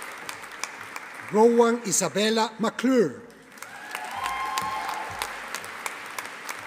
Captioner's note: audience applauding